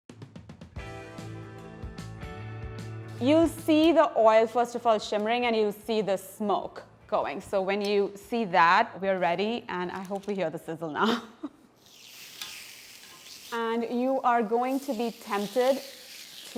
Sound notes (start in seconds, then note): 0.7 upbeat music; 11.7 chicken sizzling